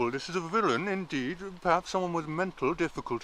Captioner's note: none